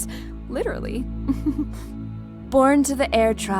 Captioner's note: soft chuckle